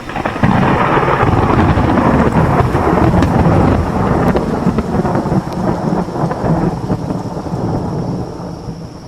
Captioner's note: thunder clap